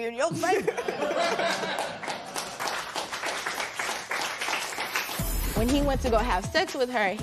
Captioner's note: laughter and applause